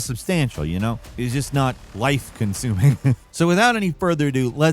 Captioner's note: laughs